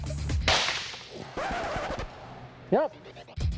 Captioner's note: record scratch